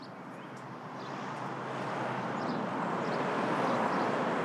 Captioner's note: traffic rumbling